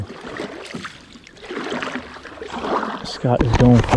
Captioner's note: water sloshing